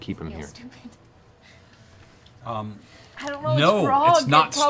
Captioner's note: laughs anxiously